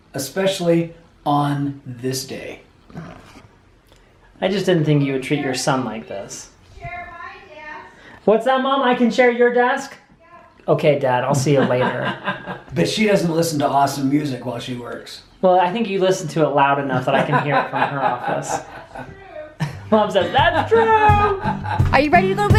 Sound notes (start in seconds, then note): 11.5 laughing; 18.6 laughing